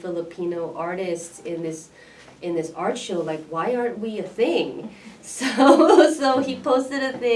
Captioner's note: laughs